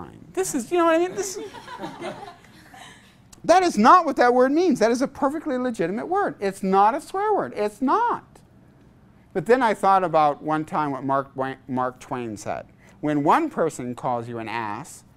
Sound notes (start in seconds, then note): 1.1 laughter